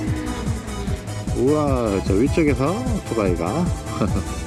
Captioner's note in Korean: 엔진음